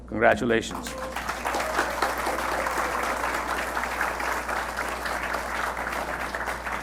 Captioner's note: attendees applauding and cheering